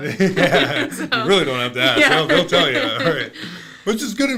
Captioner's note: laughing